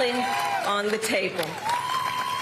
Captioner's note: applause